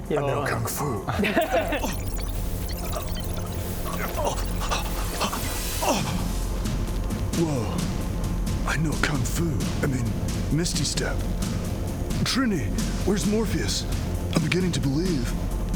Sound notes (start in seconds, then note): 1.2 matrix noises